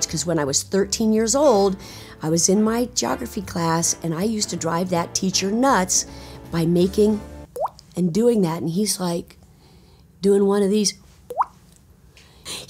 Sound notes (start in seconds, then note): 7.4 Nancy imitates water plinking; 11.1 Nancy imitates water plinking